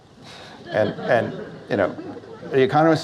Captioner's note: audience Laughs